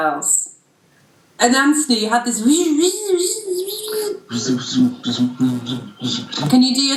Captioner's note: whizzing and Whirring noises with the mouth